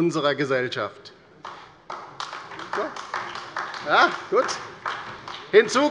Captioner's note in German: Beifall bei der LINKEN und bei Abgeordneten des BÜNDNISSES 90/DIE GRÜNEN